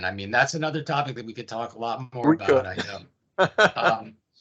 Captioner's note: chuckles